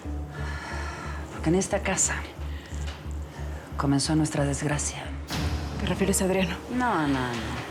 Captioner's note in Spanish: exhala